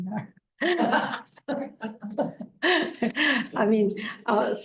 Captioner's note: attendees laughing